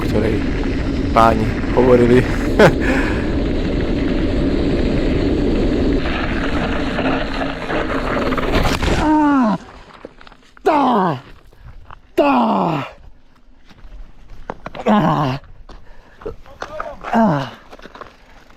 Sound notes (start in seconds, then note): 2.2 laughs